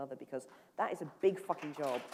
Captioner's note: applause